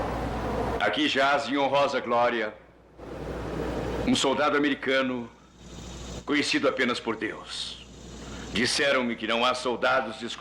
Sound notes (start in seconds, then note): none